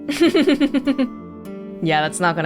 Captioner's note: chuckles